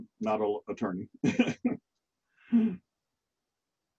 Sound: laughs

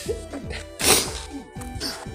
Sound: sniff

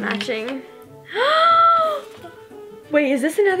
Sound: gasps

